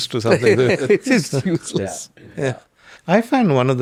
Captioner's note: laughs